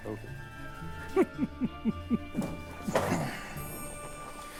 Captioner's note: laughing